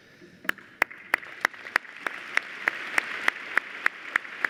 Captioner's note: applause